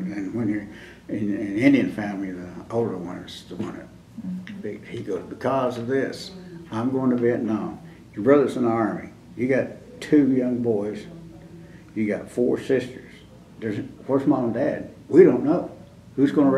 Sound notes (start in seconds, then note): none